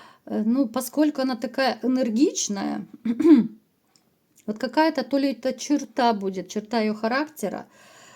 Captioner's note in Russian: откашливается